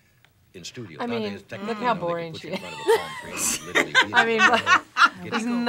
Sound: both laugh

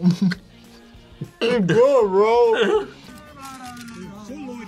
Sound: laughs

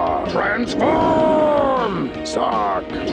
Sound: air whooshes

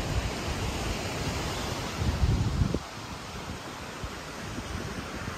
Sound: waves crashing

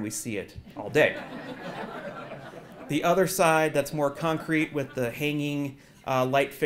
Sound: laugh

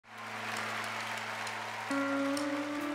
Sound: applause; gentle guitar music playing

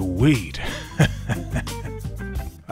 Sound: laughs

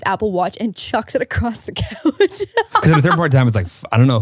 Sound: laughs

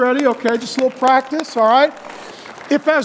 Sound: audience applauds

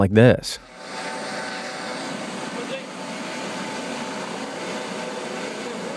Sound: helicopter engine revving

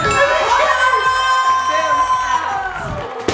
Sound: cheering

